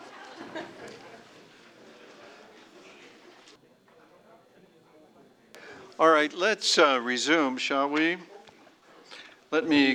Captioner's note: laughter